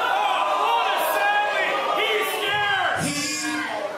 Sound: crowd

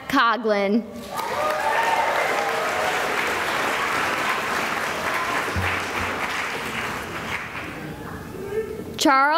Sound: cheering and applause

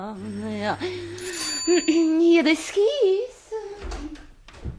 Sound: knocks on the door

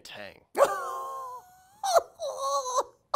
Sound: laughs

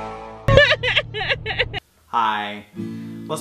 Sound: laughs

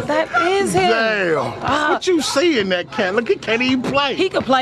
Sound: laughing

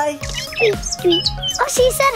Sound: bird tweeting

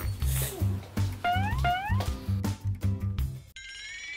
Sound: weeping

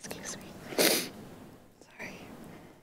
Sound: sniffling

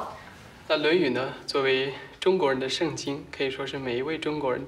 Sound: speaking Chinese

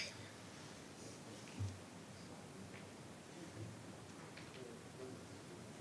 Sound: speaking faintly

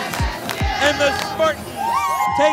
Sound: team cheering and clapping

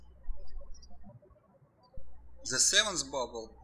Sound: birds chirping

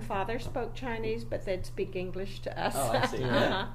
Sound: laughs

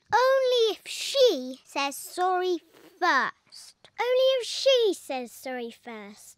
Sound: none

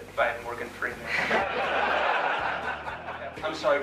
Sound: laughter

